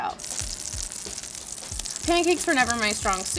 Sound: butter sizzling

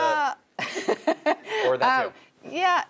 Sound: laugh

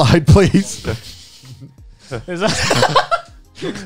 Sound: laughing

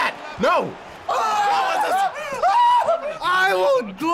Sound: screaming joyously

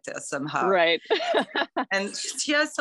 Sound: laughter

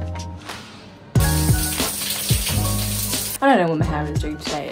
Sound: shower running

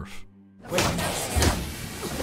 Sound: thwack-thwack

